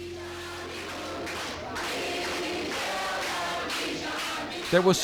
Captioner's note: crowd chanting loudly